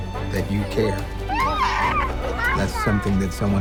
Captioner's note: exclaims